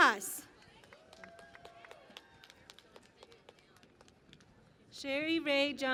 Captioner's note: cheering and Applause